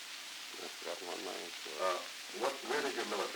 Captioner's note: Truman, mumbling